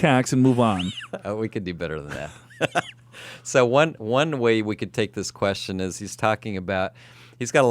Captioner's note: laughs